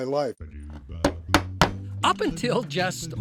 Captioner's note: hammer beating